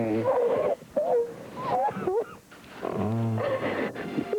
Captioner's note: sobbing